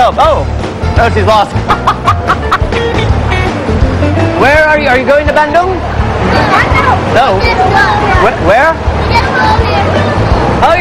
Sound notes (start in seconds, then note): 1.6 laughs; 6.5 speaking indonesian